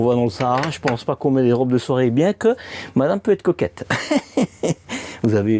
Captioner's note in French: rires